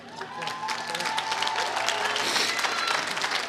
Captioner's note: applause